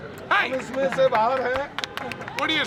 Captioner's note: non-english speech